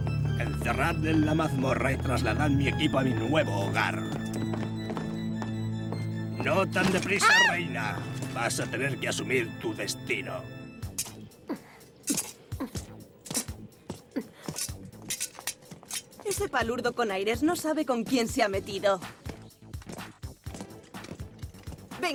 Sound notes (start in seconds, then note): 7.0 shrieks